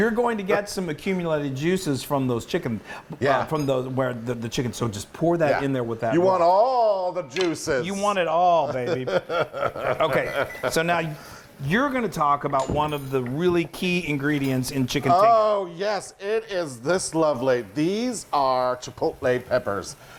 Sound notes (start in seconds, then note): 8.6 laughs